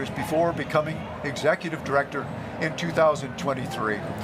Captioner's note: none